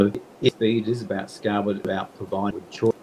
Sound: audio distorting

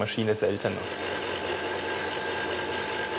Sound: whirring

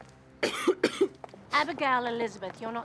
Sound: coughs

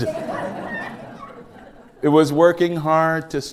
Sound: laughter

